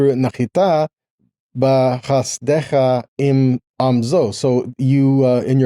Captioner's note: speaking in foreign language